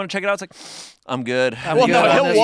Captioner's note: sniffs